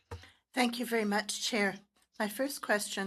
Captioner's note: speaking French